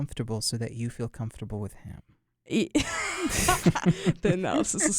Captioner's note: both laugh